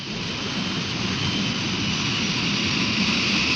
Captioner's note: plane whirring